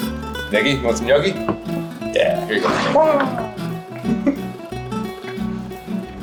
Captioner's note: exclaims